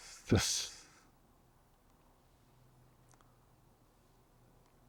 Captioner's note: pauses 13 seconds